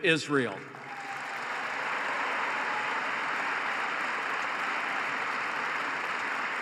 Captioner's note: applause